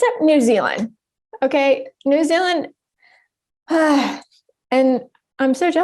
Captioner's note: sighs